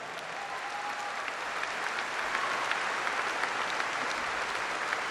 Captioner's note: applause